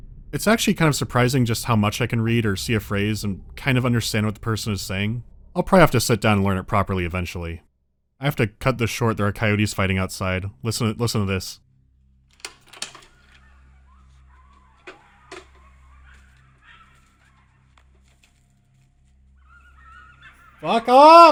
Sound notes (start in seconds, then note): 13.4 audible yelping